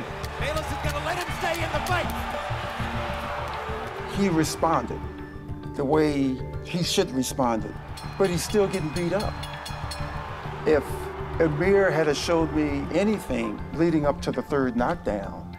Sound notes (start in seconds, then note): 7.8 bell rings